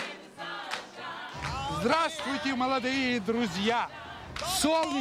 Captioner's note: speaking russian